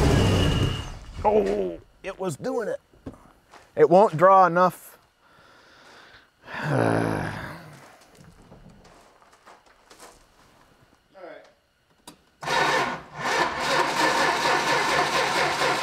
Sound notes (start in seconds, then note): 0.0 engine quits; 6.4 sighs; 12.4 ignition stutters